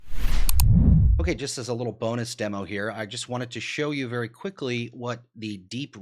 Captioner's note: mouse click